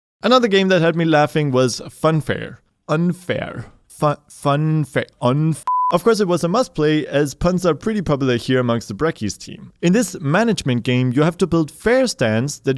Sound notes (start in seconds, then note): 5.6 beep